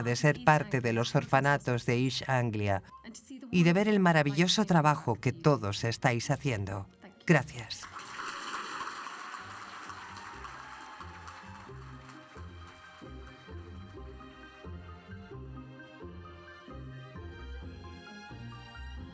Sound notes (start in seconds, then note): 7.8 audience applauds; 10.4 upbeat orchestral music